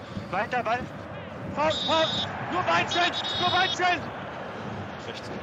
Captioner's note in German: Pfiff